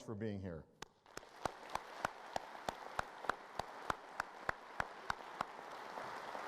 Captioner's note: applause